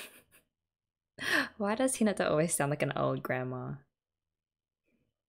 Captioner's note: laughs